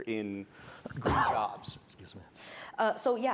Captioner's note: coughing